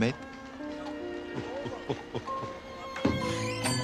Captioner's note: tertawa